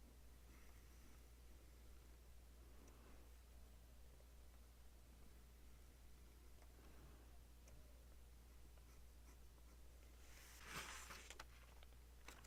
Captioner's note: writing sounds